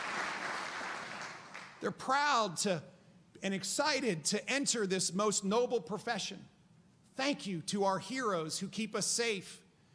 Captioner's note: applause